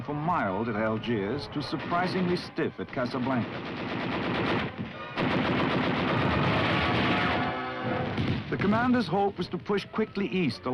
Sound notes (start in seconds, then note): 4.9 gunshots